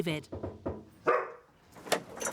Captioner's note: knocks; dog barks